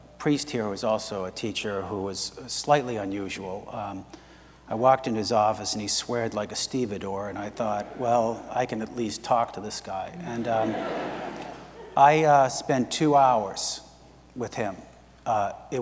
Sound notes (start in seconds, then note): 10.1 audience laughs